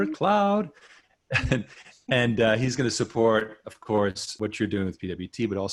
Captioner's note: chuckles